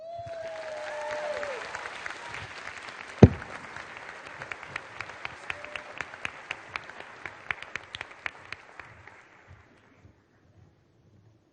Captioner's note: applause